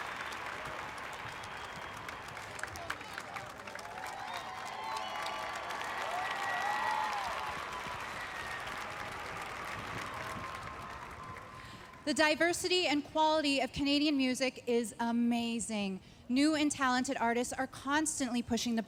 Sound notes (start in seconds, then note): 0.0 cheers and Applause